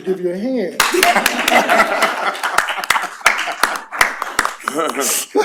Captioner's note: applause